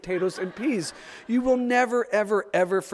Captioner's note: audience laughs